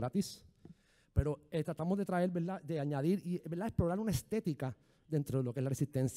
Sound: speaking in foreign language

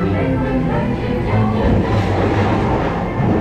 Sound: thunder booms

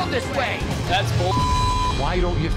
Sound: beep

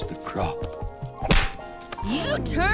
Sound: punch

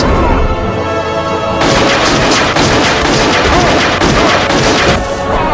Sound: shots Fired

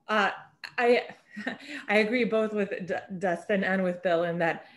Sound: chuckles

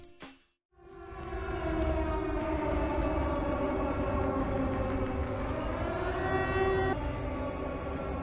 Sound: siren

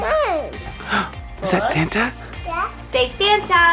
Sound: gasps

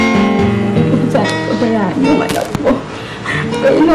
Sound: sobs

